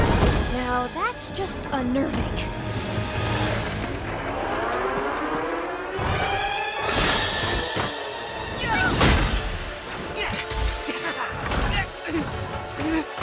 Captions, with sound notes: Now that's just unnerving. [both grunt] [grunting]